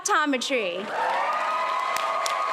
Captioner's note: applause